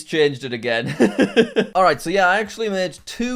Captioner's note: laughs